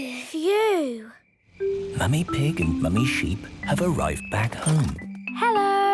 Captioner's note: whispering